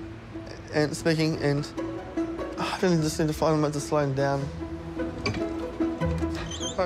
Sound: sighs

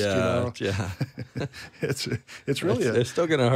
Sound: chuckles

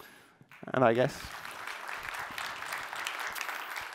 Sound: applause

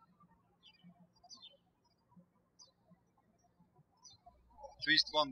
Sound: birds chirping

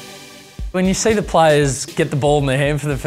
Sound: voiceover

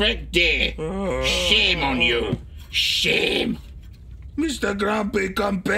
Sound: Igor groaning

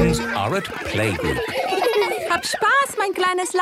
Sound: laughter; speaking German

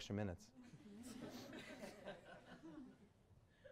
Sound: laughter

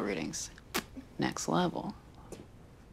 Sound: pops lips

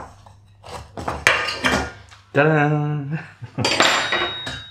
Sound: clank

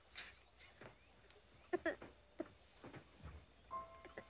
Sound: sobbing

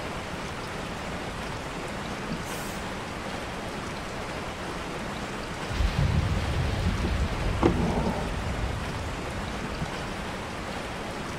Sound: sounds of distant rain & thunder, and occasional page turning

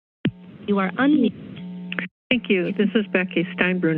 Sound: machine whirring

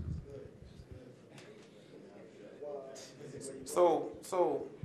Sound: general chatter

